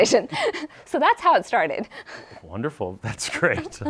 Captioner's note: laughs